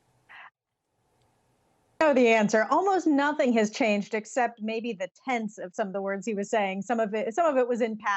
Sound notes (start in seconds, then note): 1.8 audio gap